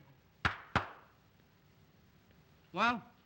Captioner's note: claps hands